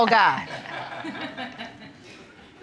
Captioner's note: laughing